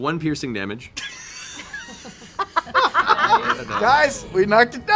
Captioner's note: laughter